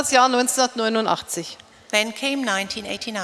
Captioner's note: speaking in German